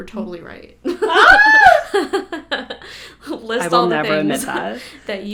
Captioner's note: screams